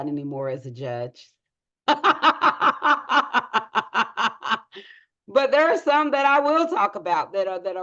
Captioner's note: laughs